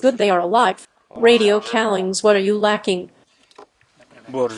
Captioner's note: radio callings